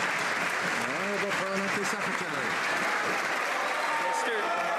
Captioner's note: some Applause